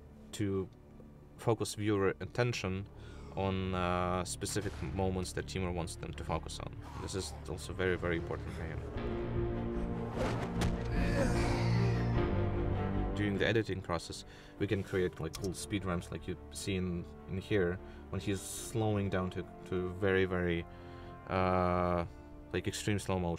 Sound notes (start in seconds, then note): 10.7 groaning